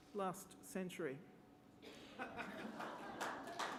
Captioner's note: laughter; applause